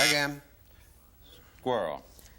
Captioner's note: buzzer